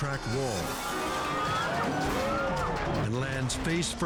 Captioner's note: spectators scream